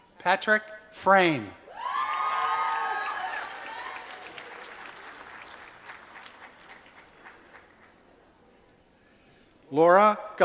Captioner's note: applause